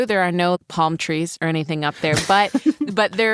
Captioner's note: laughs